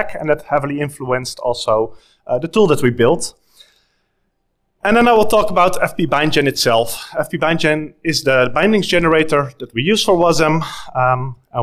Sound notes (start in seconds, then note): none